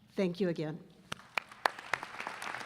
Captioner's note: applause